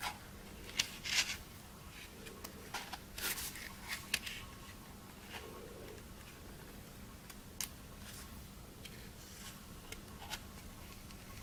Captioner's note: paper turning sounds